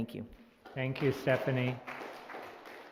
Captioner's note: applause